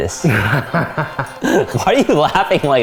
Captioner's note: laughs